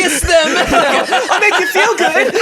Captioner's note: everyone laughs